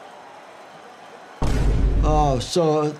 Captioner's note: Vine Boom Sound